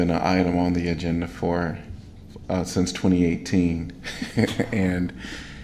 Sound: laughter

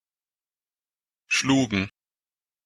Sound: fast Pronunciation

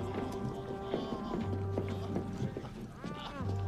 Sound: coughs; groans

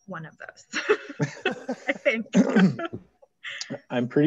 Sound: laughs

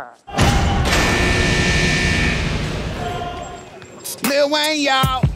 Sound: bell buzzing

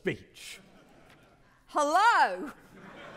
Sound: audience laughing

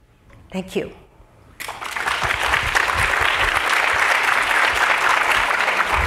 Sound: applause

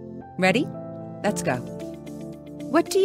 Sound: voiceover

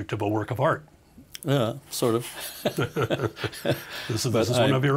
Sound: both laughing

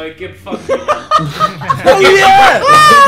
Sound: group laughing

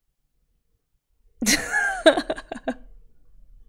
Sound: laughs

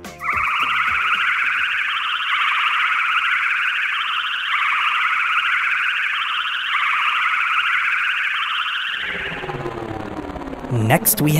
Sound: spaceship flying sounds

